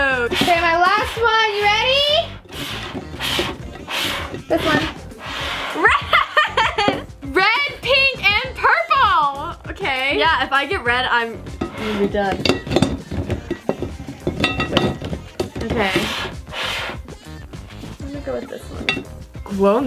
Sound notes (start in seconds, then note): 5.7 laughing; 11.5 bottles rattling